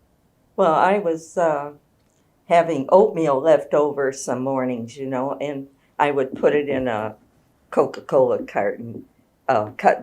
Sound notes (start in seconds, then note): none